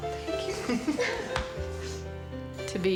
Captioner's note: laughter